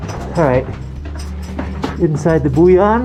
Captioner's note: feet shuffling; metallic clanking; shuffling; metallic clanking